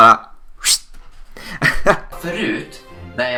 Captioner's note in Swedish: Gjorde swish ljud